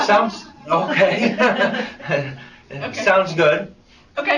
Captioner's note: laughs